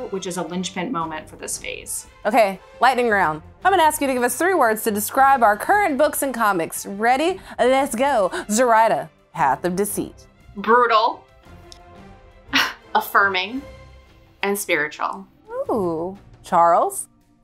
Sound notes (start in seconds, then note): 12.3 laughs